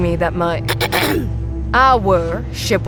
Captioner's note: clears her throat